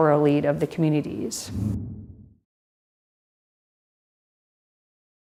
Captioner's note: air whooshing